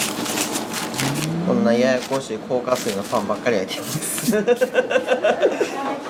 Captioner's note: laugh